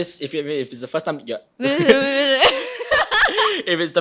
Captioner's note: both laughing